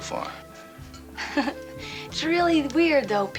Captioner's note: chuckles